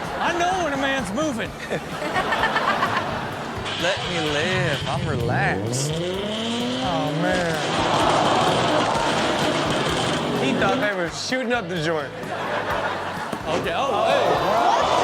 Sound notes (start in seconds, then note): 1.5 audience laughs; 5.7 engine revving; 7.7 audience gasps; 12.8 audience gasps